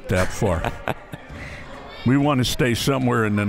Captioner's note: laughs